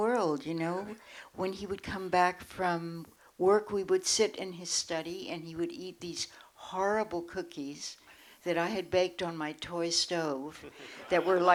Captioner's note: laughter